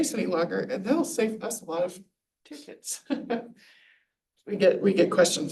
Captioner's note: chuckles